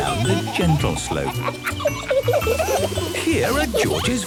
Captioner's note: kids laughing